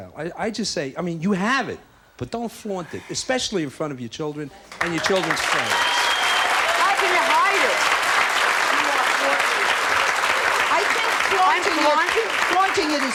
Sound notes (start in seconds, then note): 6.0 audience applauds; 9.4 applause drowns out